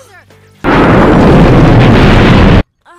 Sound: boom!

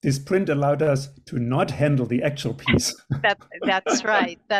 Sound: laughs

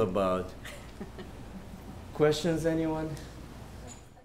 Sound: laughter

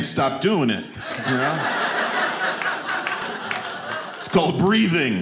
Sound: audience laughing

